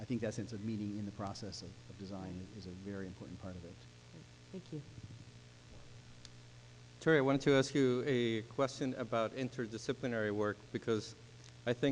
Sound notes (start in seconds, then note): 4.3 voiceover; 7.2 voiceover